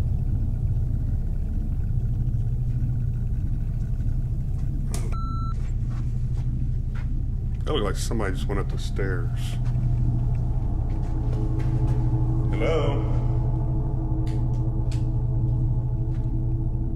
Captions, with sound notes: (beeps) That looked like somebody just went up the stairs. Hello?